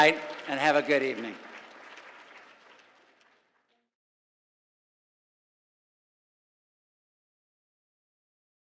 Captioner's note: applause